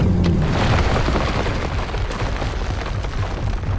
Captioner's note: shark growling; ground rumbling